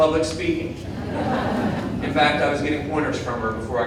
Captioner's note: audience laughing